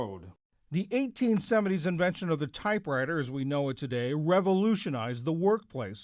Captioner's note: voice-over